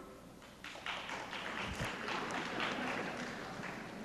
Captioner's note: sparse applause